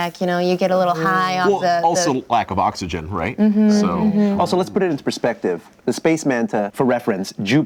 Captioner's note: none